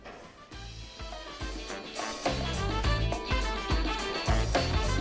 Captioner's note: bell rings